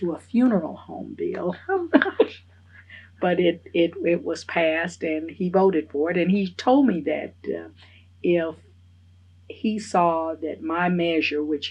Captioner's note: laughs